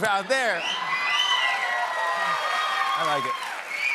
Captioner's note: whistling, cheers and applause